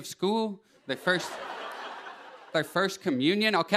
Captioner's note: laughter